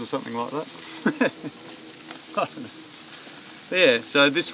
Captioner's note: laughing